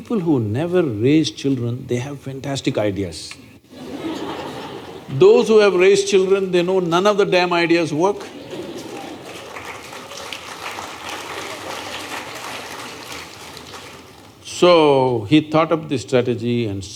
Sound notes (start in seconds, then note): 3.7 laughter; 11.6 laughter/Applause